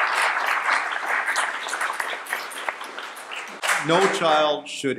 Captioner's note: applause